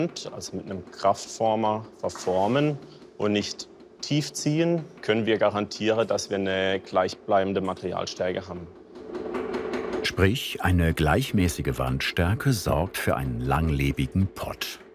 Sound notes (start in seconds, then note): 9.0 rhythmic rattling